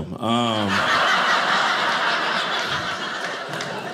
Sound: audience laughing

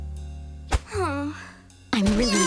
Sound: groaning

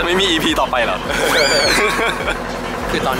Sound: dry laugh

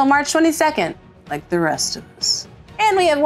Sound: glumly

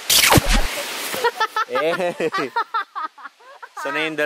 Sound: laughing

